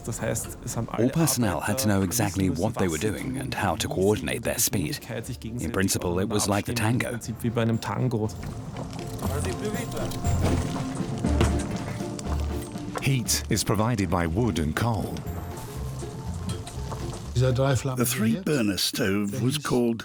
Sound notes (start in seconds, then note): 9.1 chef speaks in French